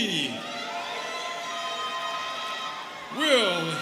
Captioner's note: students cheering